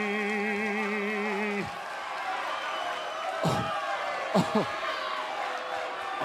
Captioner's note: cheers and applause